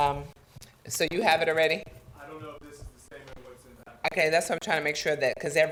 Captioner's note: talking quietly